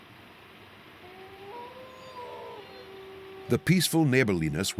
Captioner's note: wolf howls